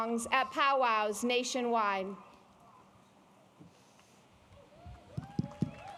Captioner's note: applause